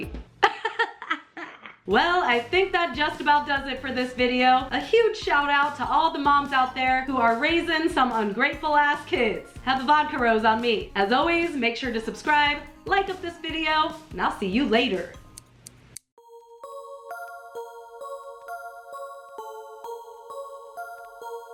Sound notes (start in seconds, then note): 0.4 laughing/crying; 15.1 snip, snip, snip; 16.2 eerie music